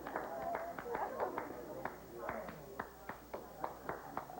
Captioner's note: applause